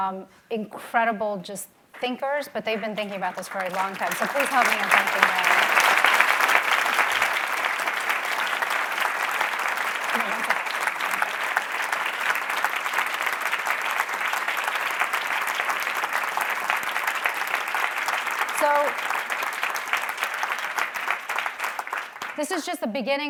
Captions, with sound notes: Incredible just thinkers, but they've been thinking about this for a long time. (applauding) So please help me in thanking them. Hold on one second, one second. So this is just the beginning of our conversations,